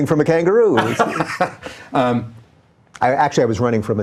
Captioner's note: laughing